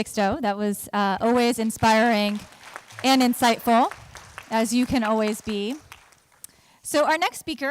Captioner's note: applause